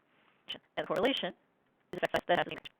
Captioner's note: glitching speaking